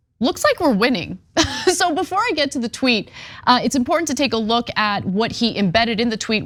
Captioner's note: laugh